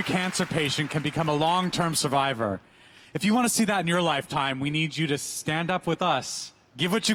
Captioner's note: applause